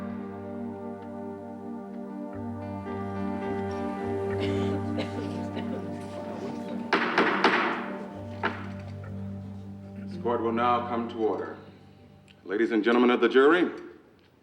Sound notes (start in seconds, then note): 0.1 ominous music; 6.9 gavel knocking